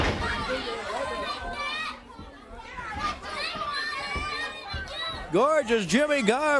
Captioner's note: crowd chatter